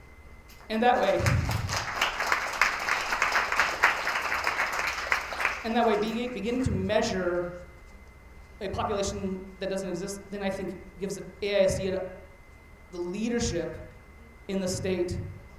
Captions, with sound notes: (attendees applauding) And that way beginning to measure a population that doesn't exist, then I think gives the AISD the leadership in the state